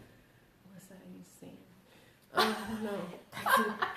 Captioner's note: laughter